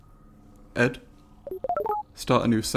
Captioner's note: Ed beeps questioningly